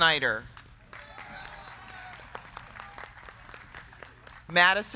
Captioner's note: crowd clapping; crowd cheering